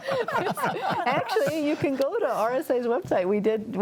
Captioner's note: panelists laughing